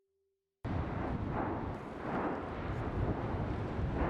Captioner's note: lava roiling